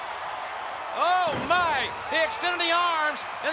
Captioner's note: body slamming